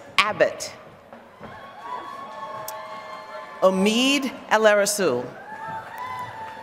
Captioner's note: applause